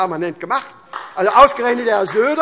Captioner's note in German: Beifall